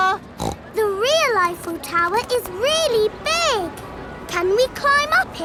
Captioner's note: snorts